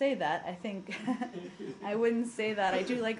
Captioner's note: laughter